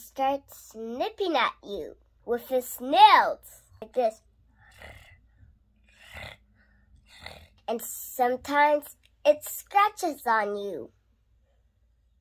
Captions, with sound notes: starts nipping at you with its nails! Like this (making purring sounds) And sometimes it scratches on you